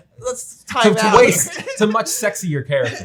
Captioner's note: laughs